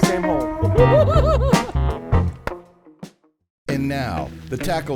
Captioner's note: excited laughter; playful music